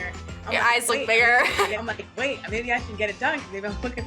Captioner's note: chuckles